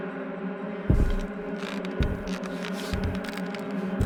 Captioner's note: footsteps on roof